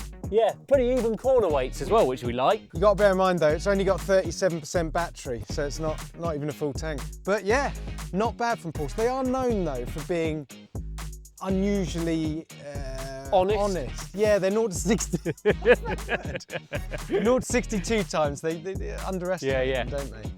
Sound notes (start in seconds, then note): 14.8 laughs